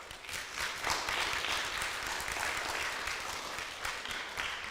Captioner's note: audience applauds